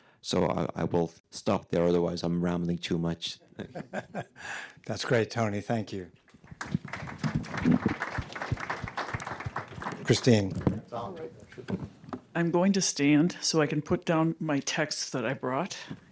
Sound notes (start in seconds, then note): 3.6 laughing; 6.4 audience applauding